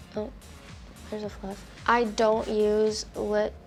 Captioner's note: whispers